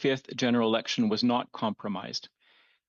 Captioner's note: speaking French